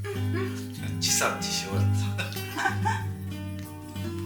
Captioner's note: laughs